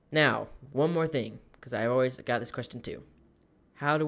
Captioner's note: none